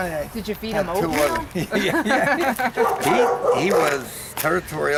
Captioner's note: all laugh